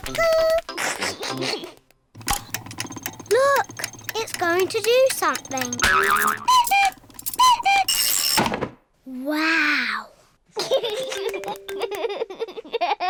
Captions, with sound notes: Cuckoo! (LAUGHS) Look! It's going to do something! (CLOCK CUCKOOS) Wow! (LAUGHS)